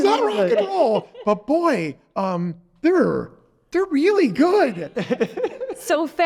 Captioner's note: laughing